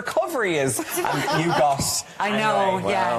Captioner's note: laughing